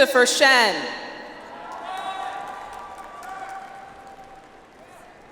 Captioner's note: audience applauds